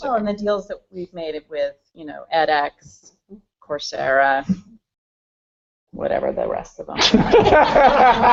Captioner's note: laughter